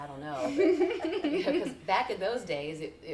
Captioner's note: laughing